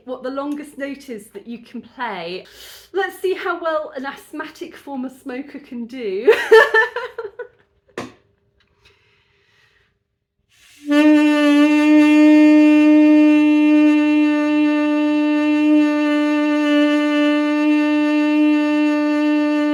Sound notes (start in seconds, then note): 6.3 laughing; 10.7 long note